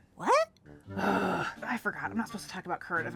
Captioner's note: groans in frustration